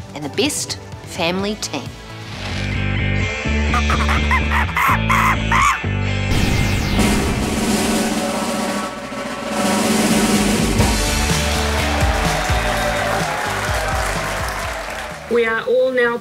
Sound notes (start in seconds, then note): 3.3 rock music; 3.8 monkey screams; 6.0 drum rolls; 10.6 audience claps and cheers